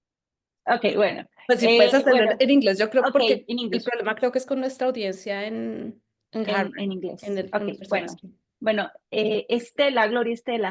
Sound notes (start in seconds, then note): 1.5 speaking Spanish; 4.0 speaking Spanish